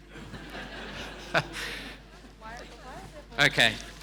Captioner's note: audience laughing